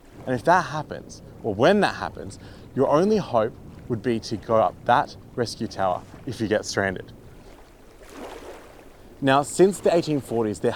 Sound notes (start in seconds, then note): 7.4 water sloshing